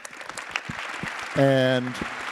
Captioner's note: attendees applauding